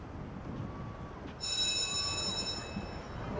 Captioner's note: bell ringing